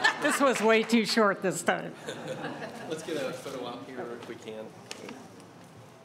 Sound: laughter

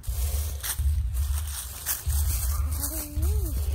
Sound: footsteps

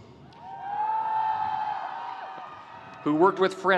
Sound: audience cheering

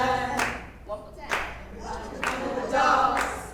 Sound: applause; applause

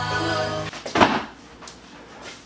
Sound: thud

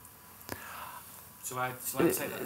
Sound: background talking

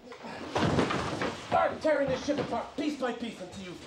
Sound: british Accent, Muffled

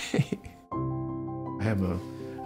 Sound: laughs

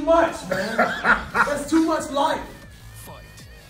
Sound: laugh

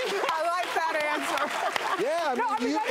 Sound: applauding

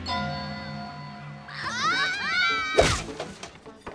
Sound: screaming

